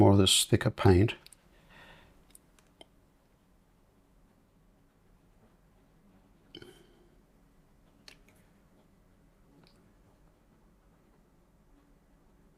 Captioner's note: silence